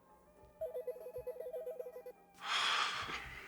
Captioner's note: phone ringing